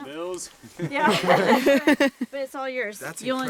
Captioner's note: laughs